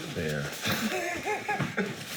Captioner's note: laughing